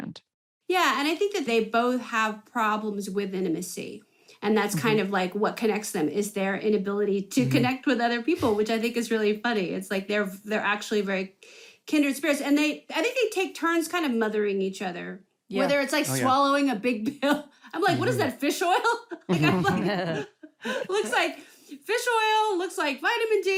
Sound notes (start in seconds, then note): 17.8 chuckles; 19.0 laughter